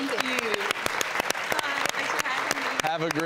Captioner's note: audience clapping